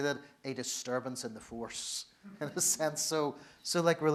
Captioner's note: laughs